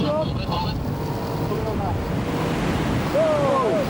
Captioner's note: boat droning; wind whooshing